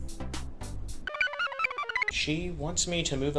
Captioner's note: computer chirps